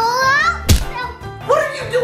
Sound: thuds

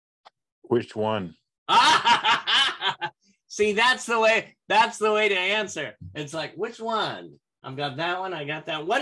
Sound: laughter

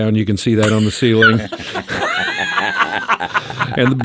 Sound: group laughs

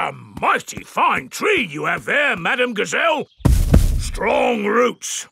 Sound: none

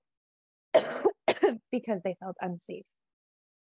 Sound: coughs

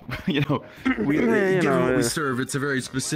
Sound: clears throat; laughs

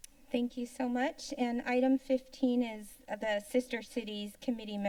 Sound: none

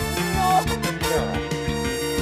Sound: groans

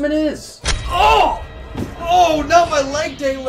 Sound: yelling

